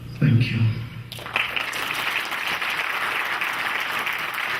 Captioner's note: clapping